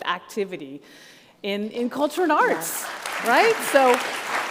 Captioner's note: audience applauds